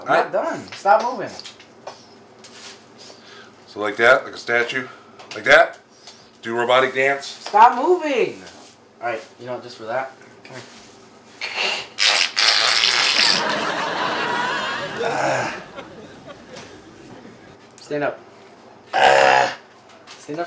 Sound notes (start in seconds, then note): 11.4 bottle makes farting sound; 13.2 audience laughs